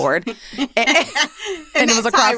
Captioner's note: laughter